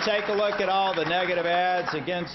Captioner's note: applause